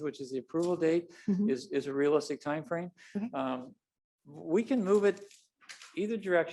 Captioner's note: none